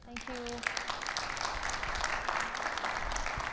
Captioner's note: audience applauding